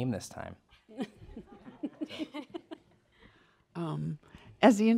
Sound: laughter

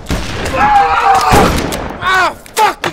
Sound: screams

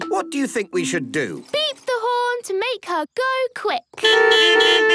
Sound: beeping

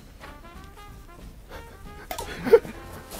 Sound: knee breaking

